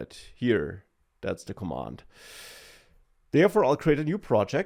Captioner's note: inhales